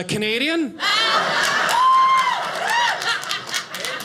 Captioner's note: audience laughing